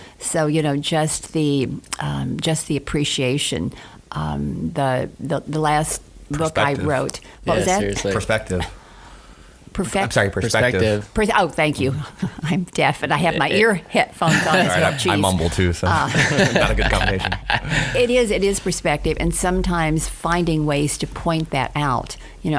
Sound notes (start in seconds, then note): 13.1 laughs; 15.8 laughing